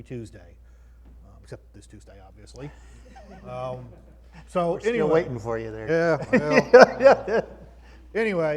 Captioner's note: croud laughs